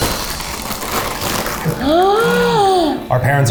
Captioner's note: bags rustling; gasps